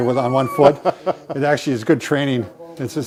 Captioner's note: laughs